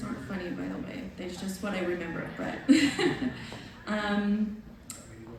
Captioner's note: laughs